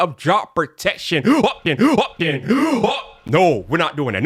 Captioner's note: speaking gibberish